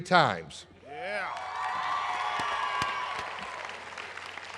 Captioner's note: applause